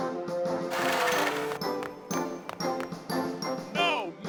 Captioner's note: quills thudding